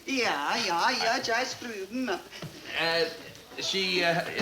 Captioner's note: accented; speaks in fake foreign language